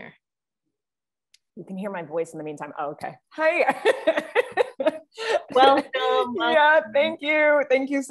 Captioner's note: laughs